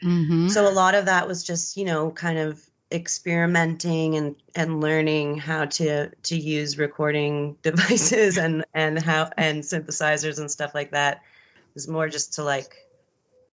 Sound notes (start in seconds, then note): 7.8 giggles